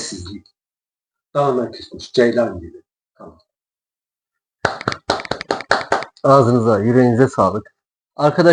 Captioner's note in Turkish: alkış